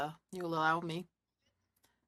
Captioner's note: speaking French